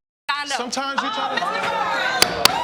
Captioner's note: audience exclaiming